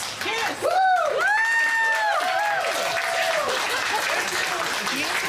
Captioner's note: guests cheering